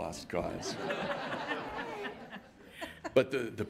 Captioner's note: laughing